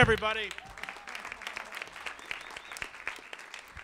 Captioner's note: audience claps